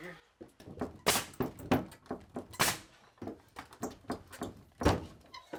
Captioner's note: nail gun thudding